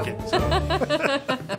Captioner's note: both laughing